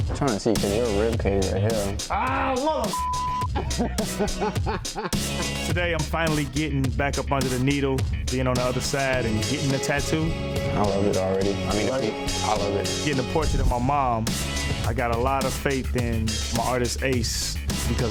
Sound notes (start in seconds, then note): 2.9 beep; 3.4 laughing